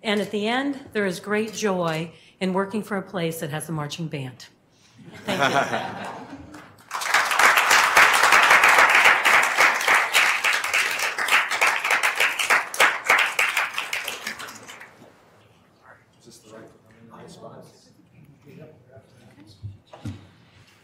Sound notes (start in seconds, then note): 5.1 laughs; 6.5 clapping